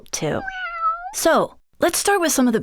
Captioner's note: cat meows